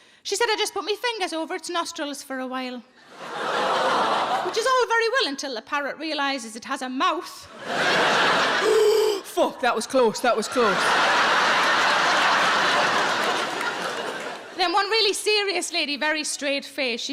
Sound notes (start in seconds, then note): 3.1 audience laughs; 7.5 audience laughs; 8.6 inhales deeply; 10.2 audience laughs